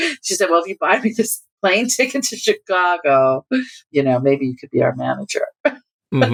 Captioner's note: laughter